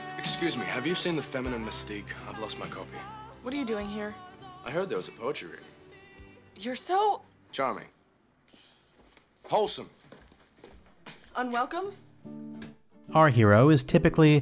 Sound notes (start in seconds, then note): 3.3 Kat, angrily